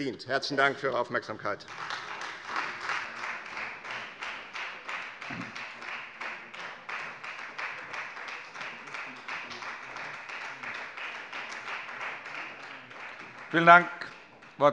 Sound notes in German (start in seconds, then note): 1.5 Beifall Freie Demokraten und vereinzelt SPD